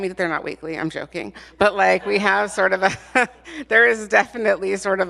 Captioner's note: laughs